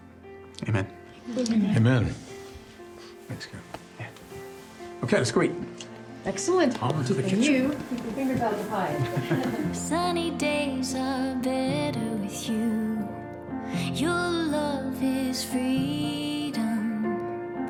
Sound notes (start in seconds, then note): 8.8 all laughing